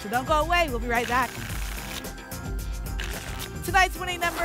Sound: tickets shuffling

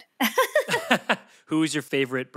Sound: Felicia and Ian laughs

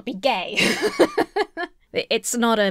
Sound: laughing

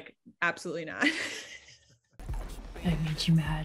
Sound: laughs

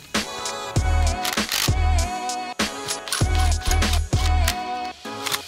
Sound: tools clicking and whirring

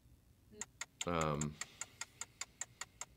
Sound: ticking

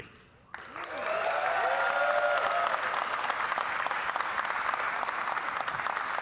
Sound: audience cheering and applauding

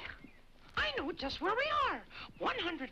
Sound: laughs

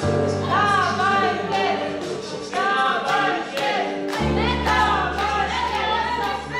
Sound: staff and dancers cheering on

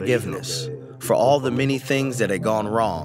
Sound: through translator

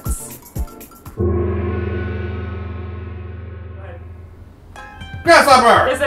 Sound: gong!

